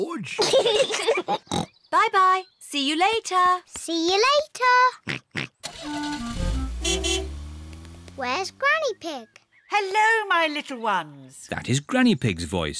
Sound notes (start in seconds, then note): 0.3 peppa and george giggle; 5.0 oinks; 5.6 horn beeps